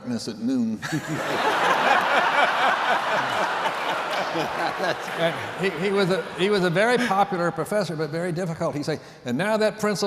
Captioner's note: laughter